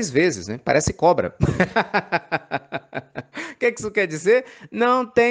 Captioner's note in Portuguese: risos